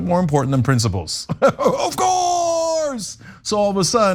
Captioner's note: laugh